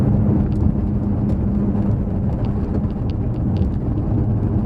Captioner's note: engine noise